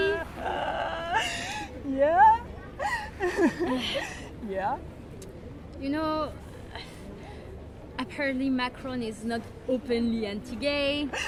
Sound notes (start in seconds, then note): 2.8 still laughing